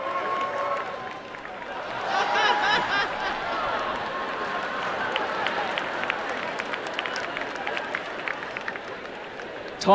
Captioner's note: applause, cheering, and laughter